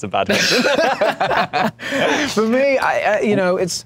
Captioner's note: laughs